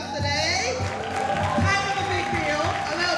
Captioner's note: audience cheering and applauding